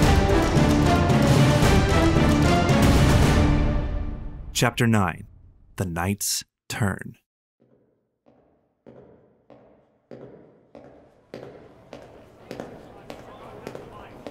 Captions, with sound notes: Chapter Nine. "The Knight's Turn." (footsteps approaching)